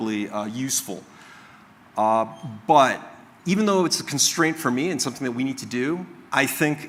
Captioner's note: squeak